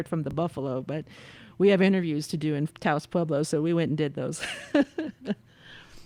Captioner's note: laughter